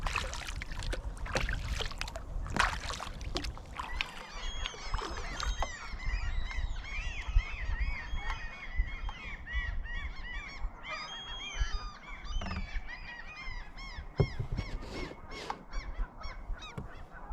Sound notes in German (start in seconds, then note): 7.9 anhaltendes Vogelgeschrei